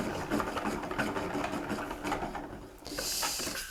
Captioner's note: winder whirs